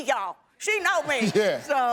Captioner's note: audience laughing; chuckles